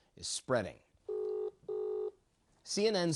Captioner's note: phone ringing